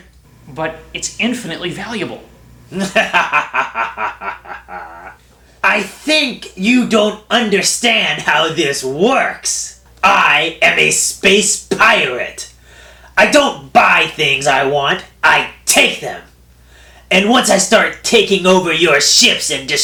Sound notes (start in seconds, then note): 2.7 laughs